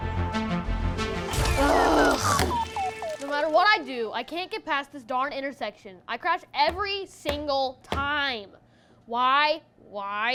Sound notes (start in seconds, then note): 1.2 crash